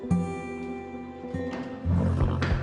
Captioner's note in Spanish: Resoplidos